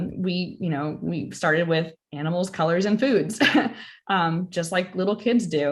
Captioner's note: laugher